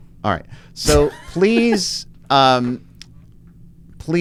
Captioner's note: laughs